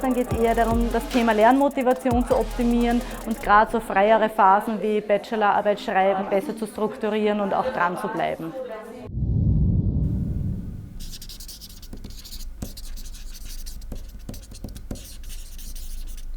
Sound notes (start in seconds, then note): 9.1 swoosh sound; 11.0 scribble sound